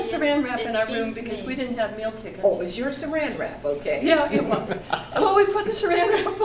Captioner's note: man laughs